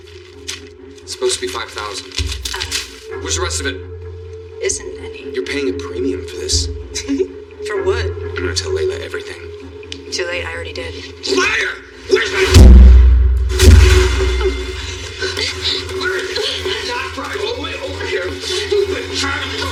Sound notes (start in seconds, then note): 6.4 Jennifer r chuckles; 13.7 dramatic musisic